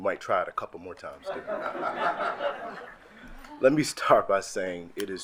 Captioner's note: attendees laugh